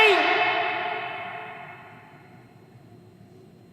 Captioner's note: voice echoing